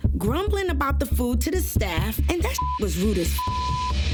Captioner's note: beep